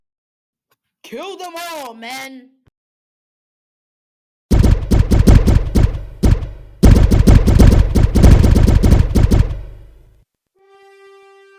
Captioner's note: shots fired